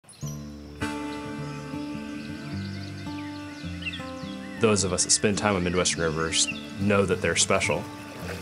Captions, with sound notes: (lighthearted acoustic music) (birds chirping happily) Those of us that spend time on Midwest rivers know that they're special.